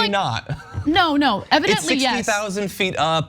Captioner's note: laugh